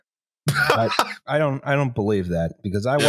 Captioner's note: laughs in a single burst